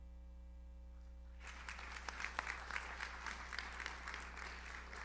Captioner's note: audience applauds